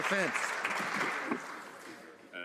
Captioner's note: some Applause